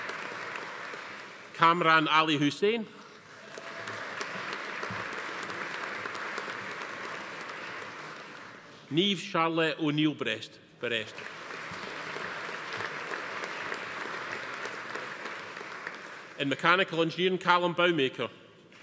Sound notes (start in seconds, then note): 3.2 audience applauding; 3.4 attendee cheering; 11.0 audience applauding